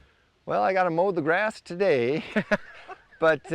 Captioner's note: laughs